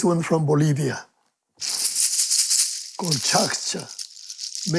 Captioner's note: rattling